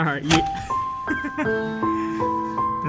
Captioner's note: laughter